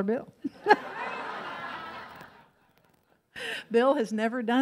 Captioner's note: audience laughs